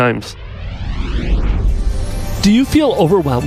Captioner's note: whooshing